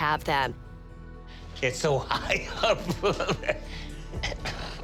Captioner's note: laughs